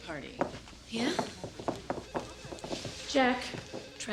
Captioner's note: phone ringing